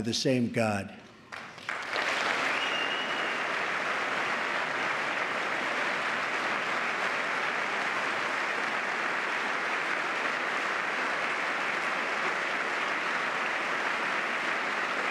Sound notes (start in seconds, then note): 3.7 applause